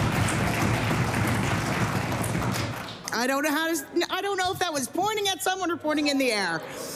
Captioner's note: applause